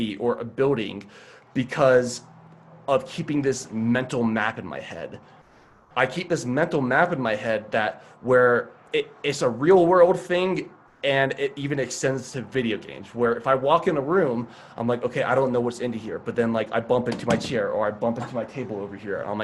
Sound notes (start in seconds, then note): none